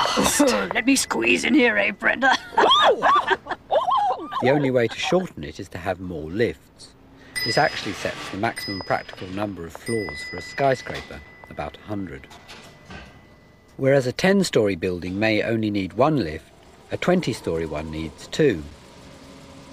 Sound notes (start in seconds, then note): 0.0 ding!; 0.0 footsteps; 2.2 giggles; 11.5 footsteps; 12.1 lift dings